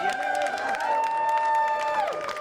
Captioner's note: audience applauding